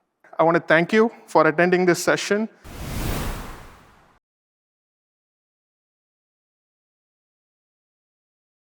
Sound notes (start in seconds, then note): 2.6 air whooshes